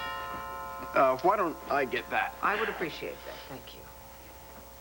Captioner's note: doorbell rings